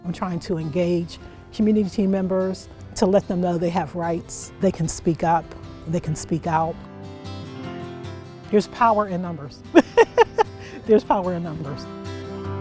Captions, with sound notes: - I'm trying to engage community team members to let them know they have rights. They can speak up, they can speak out. There's power in numbers. (laughs) There's power in numbers.